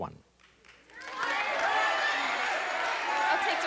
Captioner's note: chatter